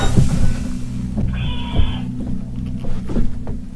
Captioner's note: weird scream